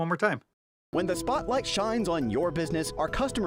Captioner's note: voiceover